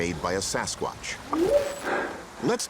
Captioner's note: whooping sound